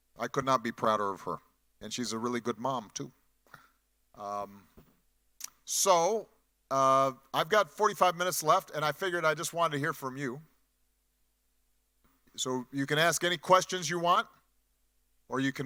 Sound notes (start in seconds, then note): none